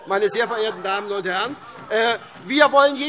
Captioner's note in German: Heiterkeit und vereinzelter Beifall SPD